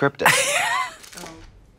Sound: Katya hee-hees

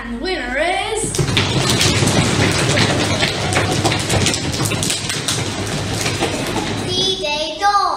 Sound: knee drumming and foot stamping…

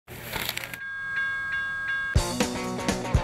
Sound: bells ringing; energetic rock music

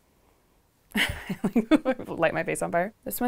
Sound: Natalie laughs

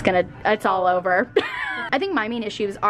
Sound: laughs

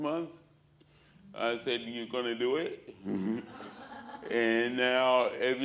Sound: laughter

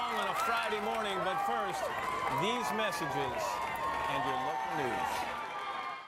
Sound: cheers and applause

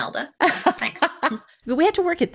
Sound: laughing

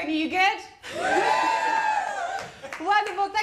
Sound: audience cheers

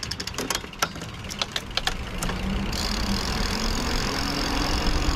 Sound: bicycle pedaling

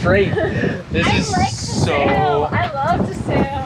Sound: laughs

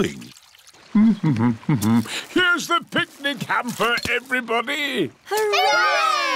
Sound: hums

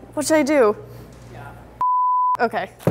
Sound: voiceover

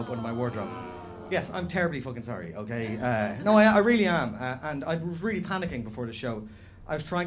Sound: groans

